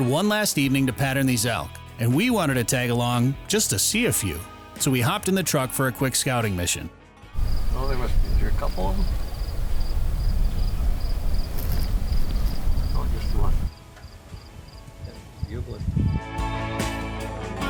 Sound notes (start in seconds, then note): 11.6 crickets chirping